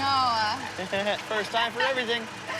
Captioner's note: laughs